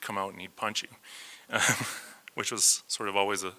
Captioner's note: laughs